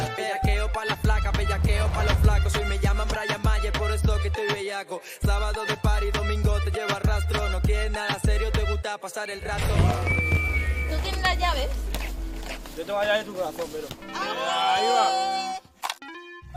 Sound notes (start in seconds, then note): 14.4 shouts